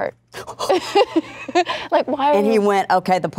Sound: laughing

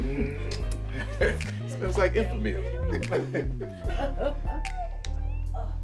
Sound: muah; chuckling

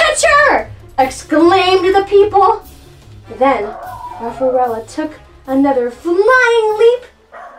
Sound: barking

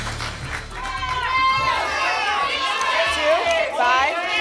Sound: audience shouting numbers

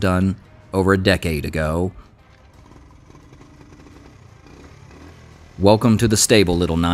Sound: engine Rumbles

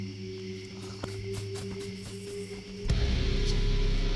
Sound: fast foot steps

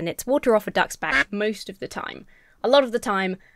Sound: duck quacks

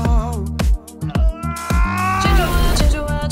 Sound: screams

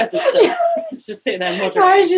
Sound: laughing

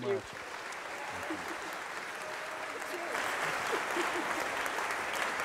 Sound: congregation applauding

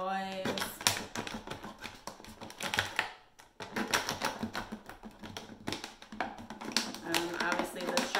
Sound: cutting noise

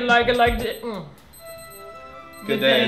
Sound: timer is beeping

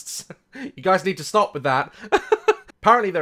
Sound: laughs

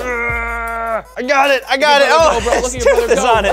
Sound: grunting

